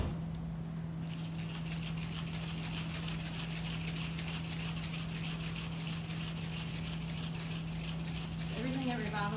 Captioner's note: drink shaking